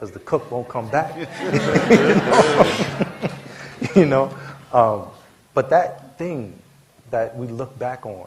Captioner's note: laughter